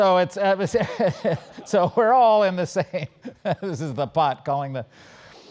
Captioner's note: laugh